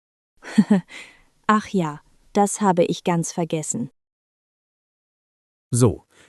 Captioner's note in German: laughs